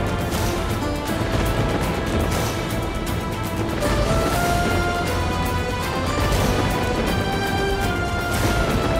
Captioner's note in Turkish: Müzik devam ediyor; Gök gürültüsü efekti